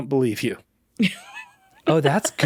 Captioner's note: laughing